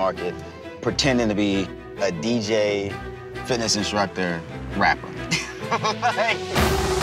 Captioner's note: laughs